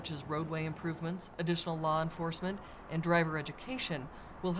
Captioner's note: sounds of vehicles driving through constuction zone; sounds of vehciles driving on road; sounds of vehicles driving on road